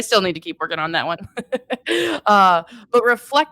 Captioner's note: laughing